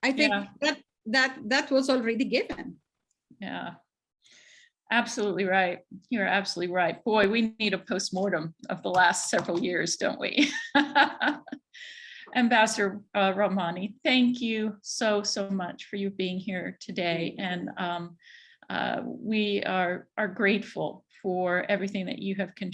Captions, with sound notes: - I think that that was already given. - Yeah. Absolutely right. You're absolutely right. Boy, we need a post-mortem of the last several years. Don't we? (laughs) Ambassador Rahmani. Thank you so, so much for you being here today, and we are grateful for everything that you have contributed